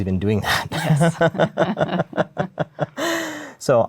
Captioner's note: laughter